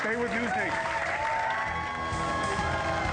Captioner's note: applause